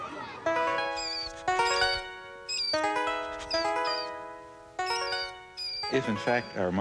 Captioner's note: gentle music; mouse squeaking